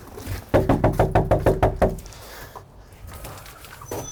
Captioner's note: knocking on door